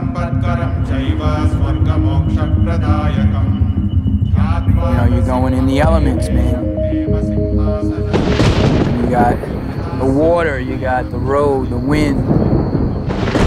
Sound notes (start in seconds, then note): 0.2 monks speaking foreign language; 7.9 thunder claps